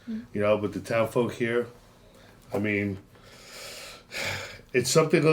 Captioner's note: suspirando